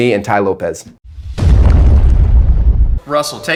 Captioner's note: stormy thunder